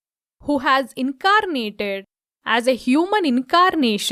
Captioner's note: none